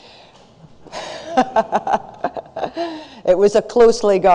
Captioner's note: laughs